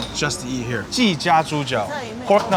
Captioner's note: man speaking foreign language